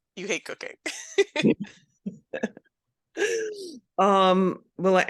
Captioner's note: presenters laughing